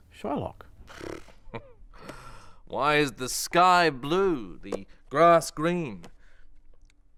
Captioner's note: laughs